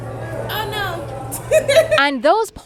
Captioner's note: laughing